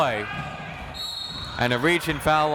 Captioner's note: whistle tweeting